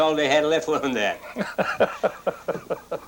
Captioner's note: laughs